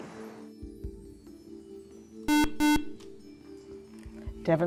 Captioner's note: buzzer